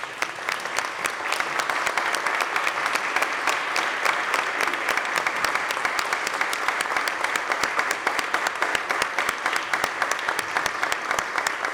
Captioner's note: applause